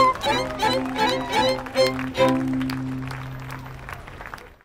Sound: applause

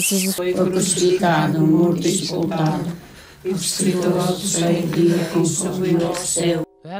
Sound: women praying

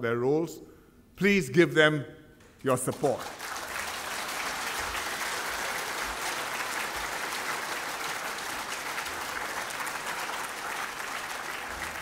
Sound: applause

